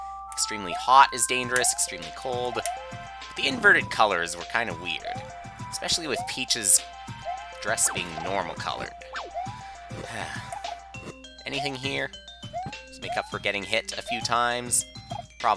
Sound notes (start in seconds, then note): 9.5 sigh